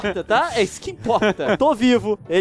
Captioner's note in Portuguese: risos